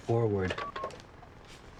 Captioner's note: phone beeping